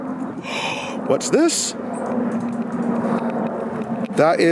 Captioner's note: gasps